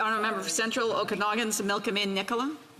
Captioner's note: none